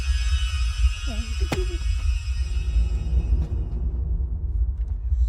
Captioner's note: bottle thuds